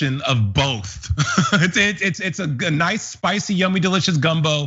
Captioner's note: laugh